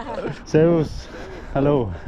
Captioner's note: all chuckle; both speak German